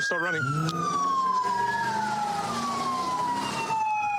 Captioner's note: engine revving